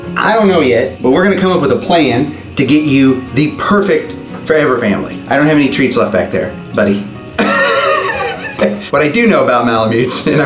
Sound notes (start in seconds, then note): 7.4 laughing